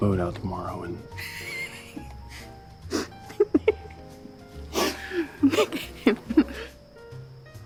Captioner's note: laughing